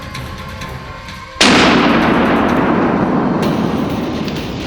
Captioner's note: gunshot